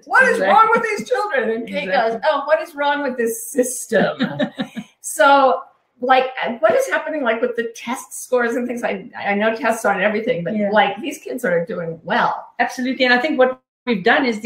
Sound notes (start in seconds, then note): 3.9 laughing